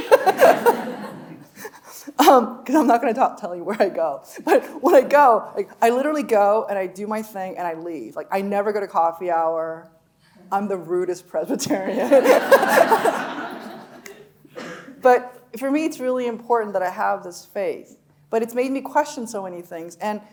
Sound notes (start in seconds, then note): 0.0 audience laughing; 0.0 laughing; 11.9 audience laughing; 12.0 laughing